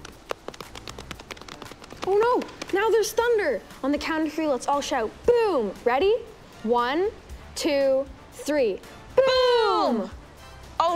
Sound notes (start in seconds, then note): 0.0 patting intensifies